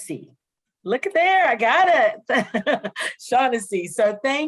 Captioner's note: laughs